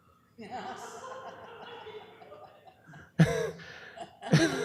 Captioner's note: laughter